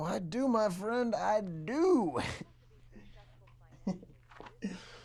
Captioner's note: chuckles